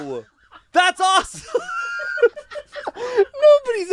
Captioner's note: laughs